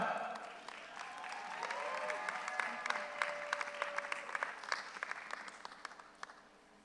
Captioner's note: audience applauds; audience cheers